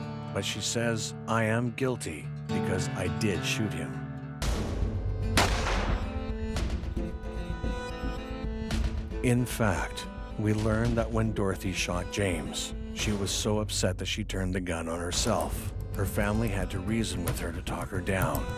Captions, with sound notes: but she says, "I am guilty because I did shoot him." (dramatic music) (gunshot exploding) In fact, we learned that when Dorothy shot James, she was so upset that she turned the gun on herself. Her family had to reason with her to talk her down.